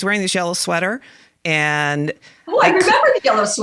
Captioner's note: laughing